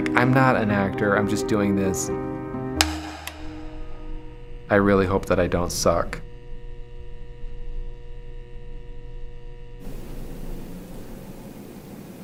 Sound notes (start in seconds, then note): 2.8 board clicks; 7.2 neon light buzzing